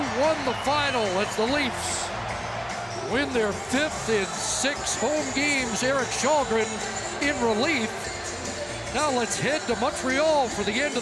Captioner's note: cheering and Applause